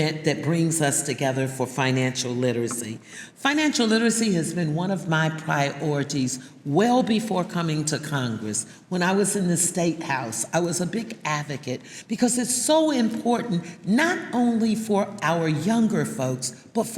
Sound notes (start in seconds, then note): none